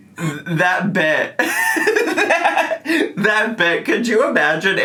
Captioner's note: laughs